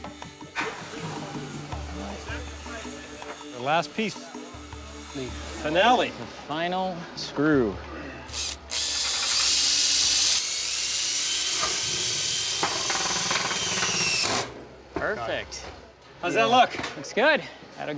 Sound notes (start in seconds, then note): 5.4 drill whirring